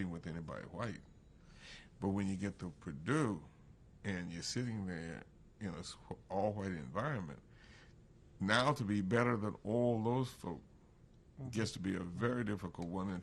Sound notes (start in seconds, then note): none